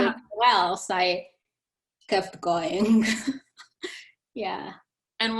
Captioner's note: chuckling